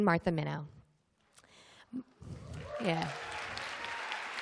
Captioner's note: applause